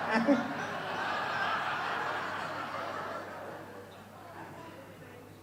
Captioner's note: audience laughs